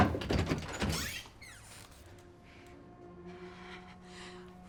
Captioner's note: door squeaks